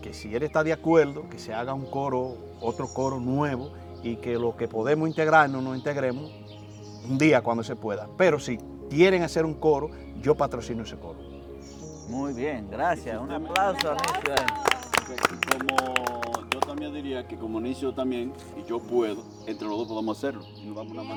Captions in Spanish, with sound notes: si él está de acuerdo que se haga otro coro nuevo y que los que podemos integrarnos nos integremos, un día cuando se pueda pero sí quieren hacer un coro, yo patrocino ese coro. Muy bien. Gracias. ¡Un aplauso! [APLAUSOS] Yo diría que, como Nicio también, si yo puedo, entre los dos podemos hacerlo